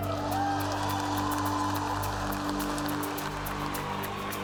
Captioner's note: cheers and applause